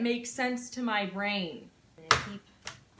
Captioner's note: chopping